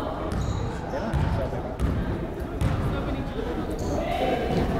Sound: crowd chattering

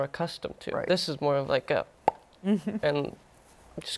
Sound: pops

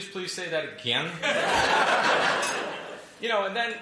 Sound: laughter

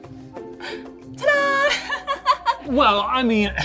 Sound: laughs

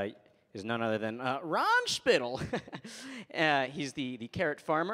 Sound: chuckles

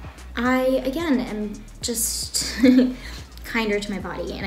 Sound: laughs

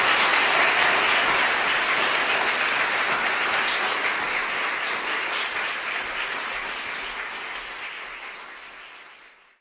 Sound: applause fades

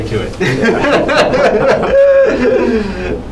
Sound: laughing

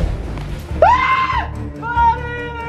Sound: screaming

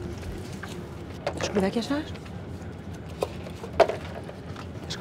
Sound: rubbish rustling

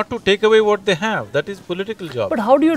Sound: laughs

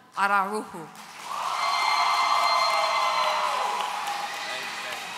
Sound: audience cheering

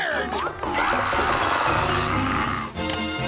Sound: screaming

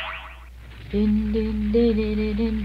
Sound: Orange humming

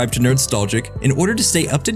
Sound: chime

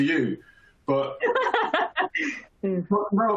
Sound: chuckles

